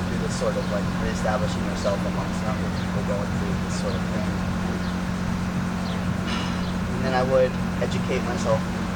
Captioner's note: sigh